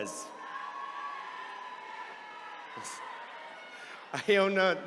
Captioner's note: attendees cheering